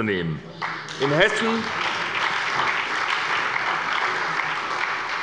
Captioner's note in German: Beifall bei der SPD